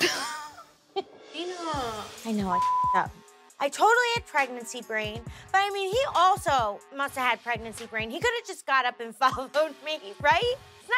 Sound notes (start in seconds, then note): 0.0 laughs; 2.5 beep